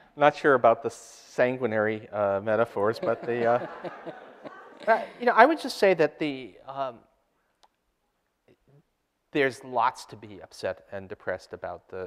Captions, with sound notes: - Not sure about the sanguinary metaphors, but the-- (audience laughter) Right, you know, I would just say that there's lots to be upset and depressed about